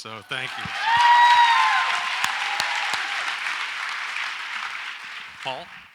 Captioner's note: audience applauds and cheers